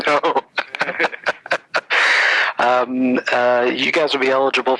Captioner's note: laughs